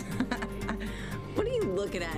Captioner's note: laughs